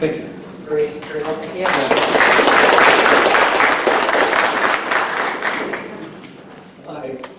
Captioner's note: applause